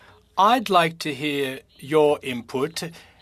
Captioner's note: speaking French